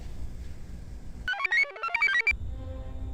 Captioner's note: computer chirps; commanding orchestral music